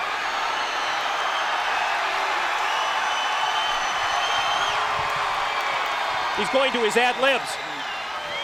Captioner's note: crowd cheering